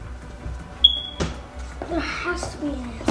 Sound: beeping

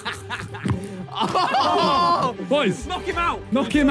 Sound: players laugh; players exclaim

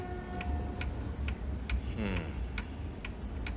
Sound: Frank murmurs

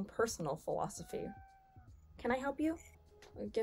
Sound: cat meowing

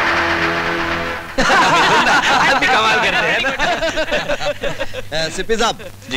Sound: laughs

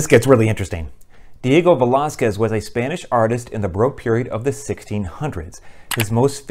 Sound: mouse click

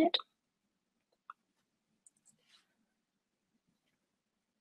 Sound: mouse clicks

